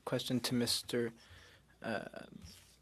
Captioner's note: speaking French